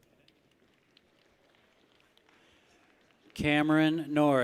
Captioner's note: people clap